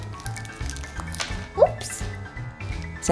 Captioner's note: crack